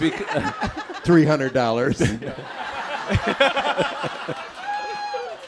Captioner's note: laughter